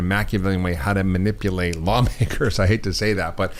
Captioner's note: chuckles